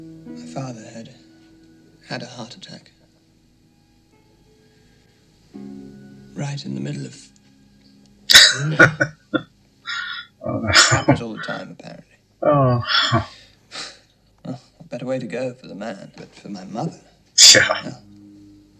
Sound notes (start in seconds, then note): 8.4 laughing